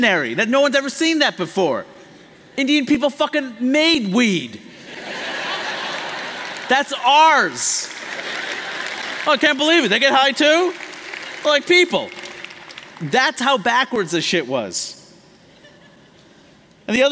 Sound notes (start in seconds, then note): 4.8 laughter